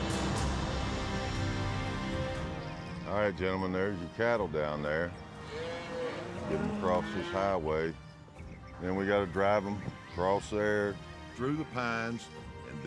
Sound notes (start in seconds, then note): 5.3 mooing